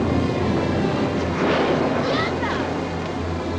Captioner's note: none